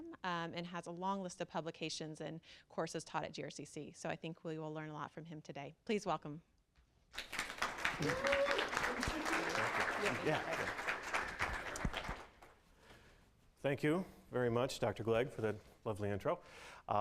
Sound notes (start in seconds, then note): 7.1 applause and cheering